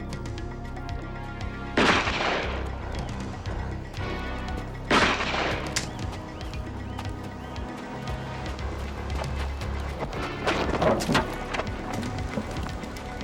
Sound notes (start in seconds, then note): 1.8 gun firing